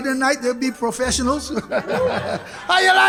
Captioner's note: laughs